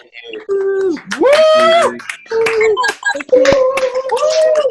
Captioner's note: audience cheers and applauds